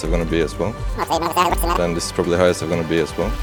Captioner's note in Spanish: ruido de cinta